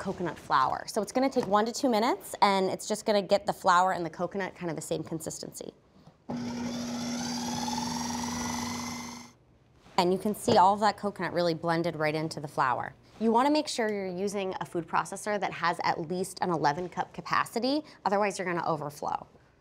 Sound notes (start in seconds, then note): 6.3 processor whirring